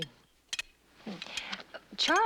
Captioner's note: clinking